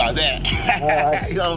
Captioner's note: laughing